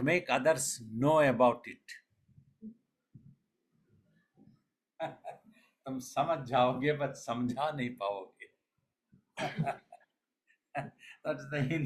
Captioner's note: laughs